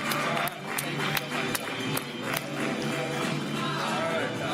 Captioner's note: applause